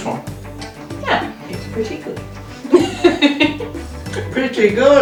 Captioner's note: laughs